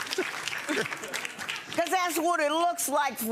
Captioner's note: audience laughing and applauding